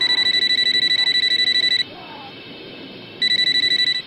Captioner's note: phone rings